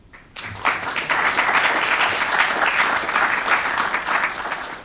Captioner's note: applause